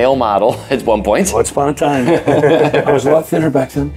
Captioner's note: group laughs